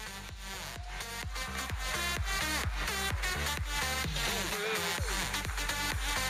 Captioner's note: audience applauding; electronic dance music